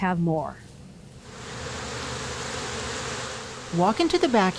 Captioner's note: bees buzzing